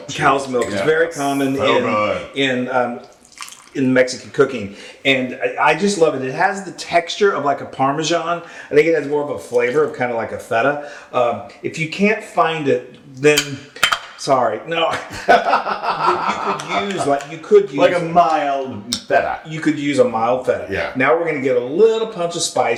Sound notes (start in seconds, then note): 15.1 laugh